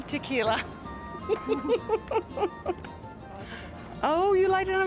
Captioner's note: laughs